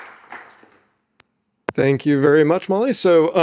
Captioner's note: audience applauding